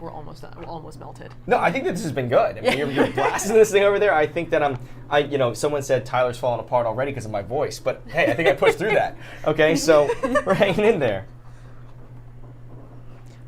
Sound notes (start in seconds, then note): 9.7 Safiya laughs; 12.8 laughs